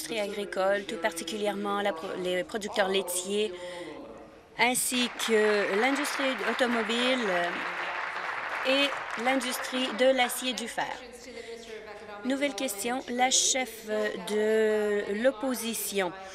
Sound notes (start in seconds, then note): 7.8 applause